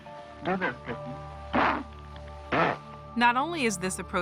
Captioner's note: grunts